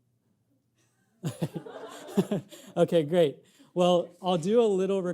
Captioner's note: audience laughing